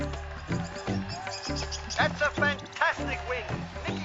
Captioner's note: tropical birds calling